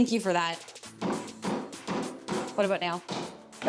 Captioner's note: hammer taps